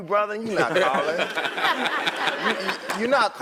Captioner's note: laugh